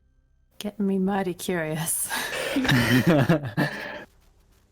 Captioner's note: agreeing laugh